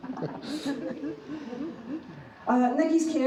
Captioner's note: laughing